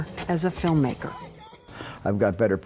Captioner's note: soldiers yelling indistinctly